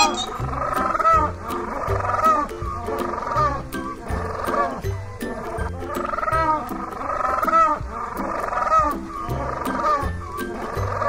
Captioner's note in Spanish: Sonido pingüino